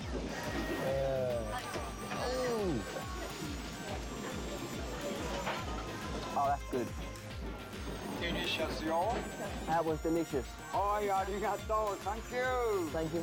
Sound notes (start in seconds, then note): 7.8 speaking Japanese; 10.5 speaking Japanese